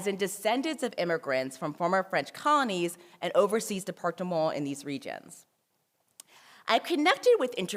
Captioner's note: french